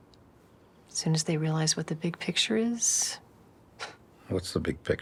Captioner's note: scoffs